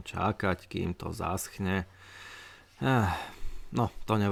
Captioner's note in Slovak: vzdychanie